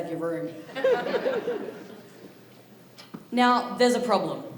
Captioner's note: audience laughs